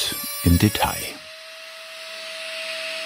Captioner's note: milling noise